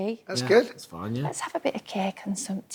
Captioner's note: yorkshire accent